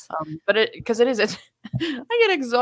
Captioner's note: laughing